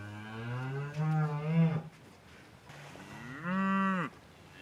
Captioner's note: cows mooing